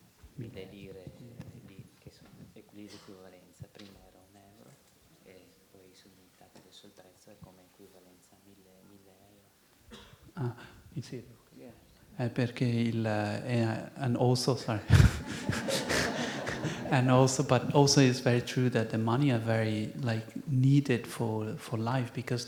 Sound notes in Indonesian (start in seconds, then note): 12.3 Penerjemah berbicara bahasa Itali; 15.8 Tertawa